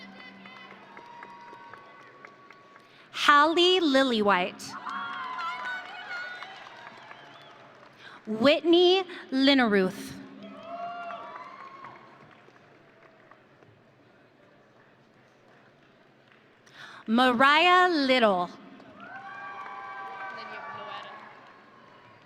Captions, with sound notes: (audience cheering) Hallie Lillywhite. (audience cheering) Whitney Linnerooth. (audience cheering) Mariah Little. (audience cheering)